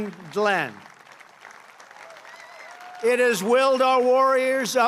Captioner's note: applause